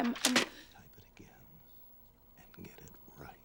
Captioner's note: whispering